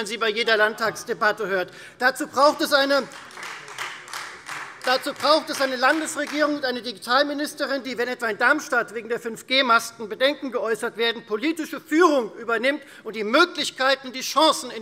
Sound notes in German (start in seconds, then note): 2.9 Beifall Freie Demokraten